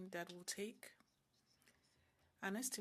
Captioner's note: speaking French